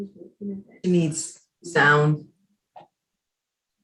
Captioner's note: murmurs